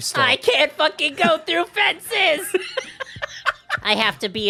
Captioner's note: Spongebob voice